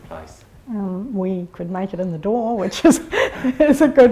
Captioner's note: laughs